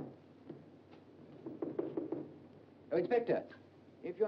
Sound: knocking on door

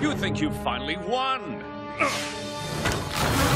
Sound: grunting

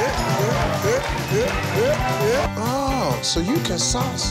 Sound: people applauding

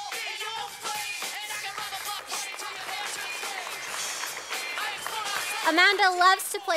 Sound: sound of applause from audience

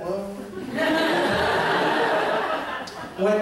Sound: laughter

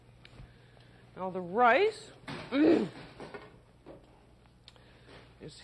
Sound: clears throat

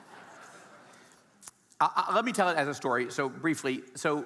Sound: audience laughing

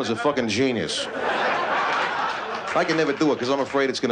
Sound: laughter

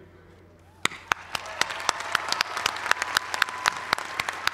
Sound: applause

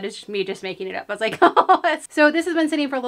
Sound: laughs

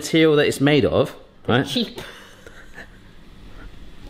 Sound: laughing

